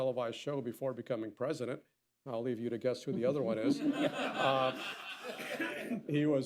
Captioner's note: laughter